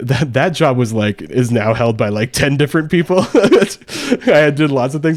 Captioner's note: laughs